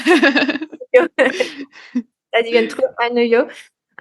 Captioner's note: laughs